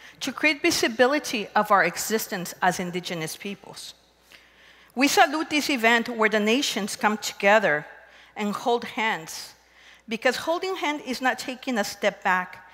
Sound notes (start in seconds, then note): none